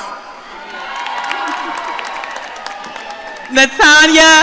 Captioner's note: audience cheering